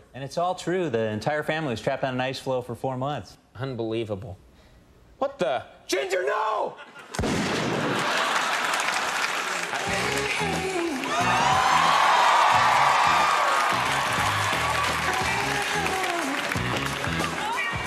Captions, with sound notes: And it's all true. The entire family was trapped on an ice floe for four months. Unbelievable. What the...? GINGER NO! (gun shot) (crowd laughing) (crowd cheering) (groovy music)